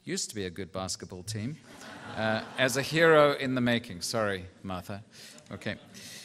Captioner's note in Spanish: risas